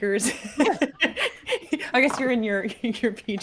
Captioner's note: laughing